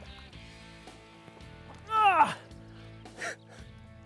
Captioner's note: grunt